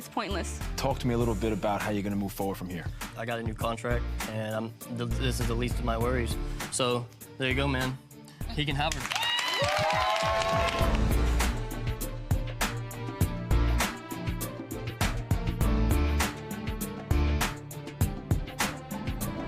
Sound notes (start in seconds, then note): 9.0 audience cheering; 10.9 serious music